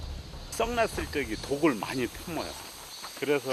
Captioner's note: hornets